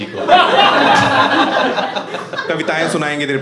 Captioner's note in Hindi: हँसना